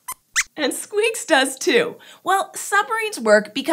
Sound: squeaks squeaks

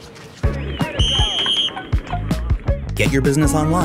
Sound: upbeat music; whistle blows

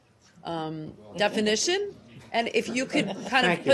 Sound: laughter

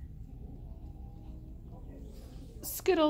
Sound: Distant Skittles growling

